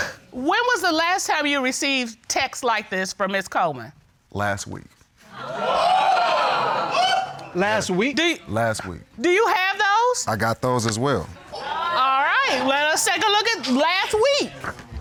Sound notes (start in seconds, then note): 5.5 audience gasping